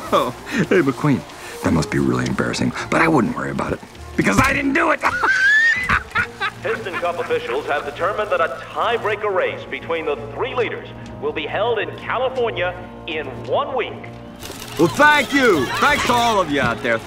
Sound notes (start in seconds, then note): 4.8 laughing